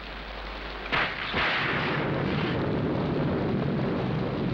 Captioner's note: thunder crashes